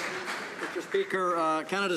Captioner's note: some Applause